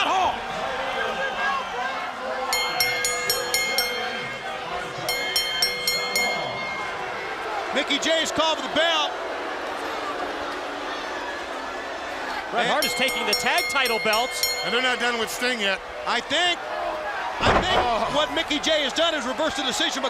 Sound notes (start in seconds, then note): 2.5 crowd cheering; 5.1 bell dings; 7.0 crowd chatter; 11.7 crowd chatter